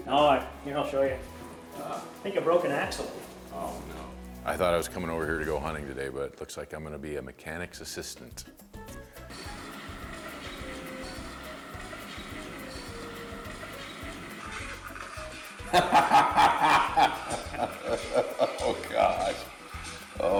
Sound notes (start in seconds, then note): 9.5 cheerful music; 15.6 laughter